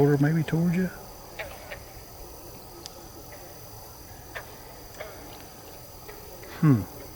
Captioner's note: katydids forest sounds